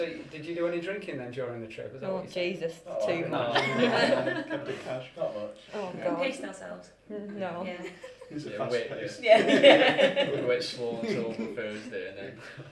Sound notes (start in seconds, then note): 9.3 laughter